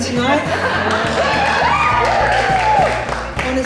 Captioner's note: audience Applause